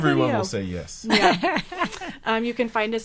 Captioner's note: laughing